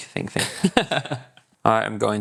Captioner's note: laughing